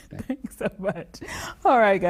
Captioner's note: chuckling